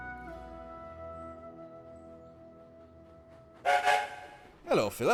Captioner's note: skarloey whistles